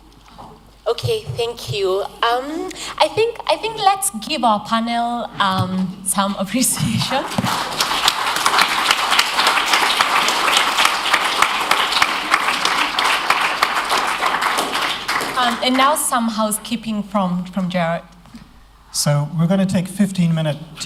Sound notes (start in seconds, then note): 7.0 applause